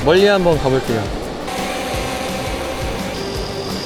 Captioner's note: drone takeoff again